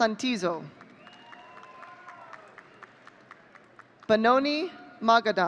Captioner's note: audience cheering